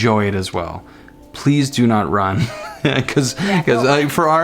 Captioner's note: laughing